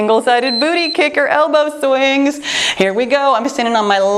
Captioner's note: timer beeps